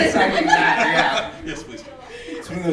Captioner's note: laughing